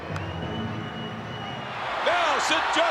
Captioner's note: Curt claps; crowd cheers and whistles